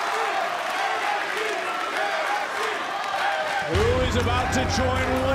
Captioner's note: crowd chants "nxt"